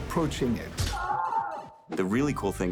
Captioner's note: muffled scream